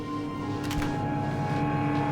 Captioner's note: door closes